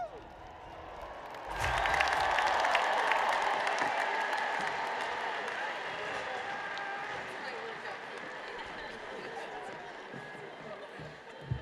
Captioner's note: applause